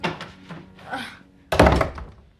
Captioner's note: SlGHS